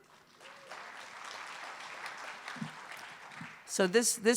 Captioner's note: applause